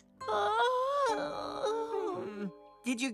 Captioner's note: yawns